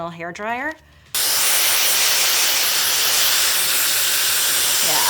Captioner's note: dryer whirs